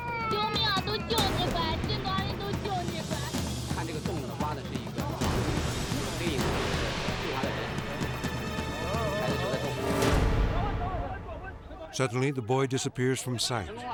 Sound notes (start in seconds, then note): 0.2 mother speaking in Chinese; 3.6 rescuers speaking in Chinese